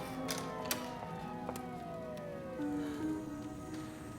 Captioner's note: siren